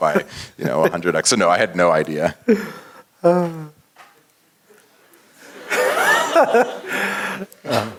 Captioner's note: laugh